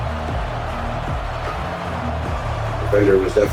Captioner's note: crowd Noises